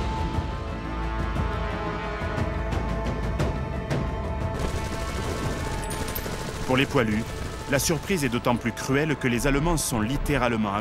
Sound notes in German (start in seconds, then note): 4.5 Maschinengewehr-Geräusch